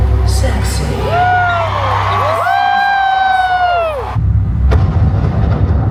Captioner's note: guests cheering; tensed music